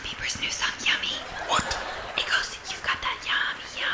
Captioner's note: whispering